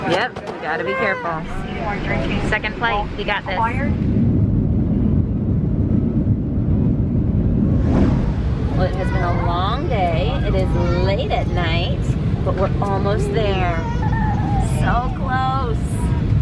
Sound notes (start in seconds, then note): 5.8 airplane moving